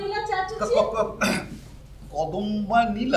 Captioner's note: stammers